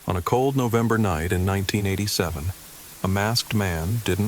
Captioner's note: TV static noise